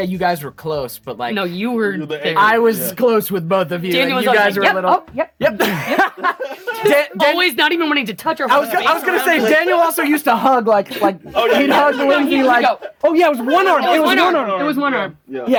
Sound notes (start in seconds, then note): 5.4 all laugh